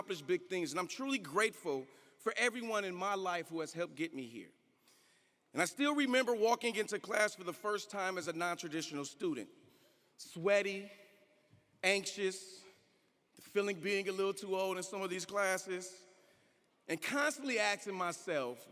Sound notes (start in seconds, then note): none